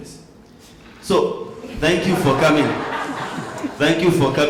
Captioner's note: laughter